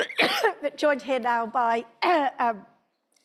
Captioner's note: coughing; clears throat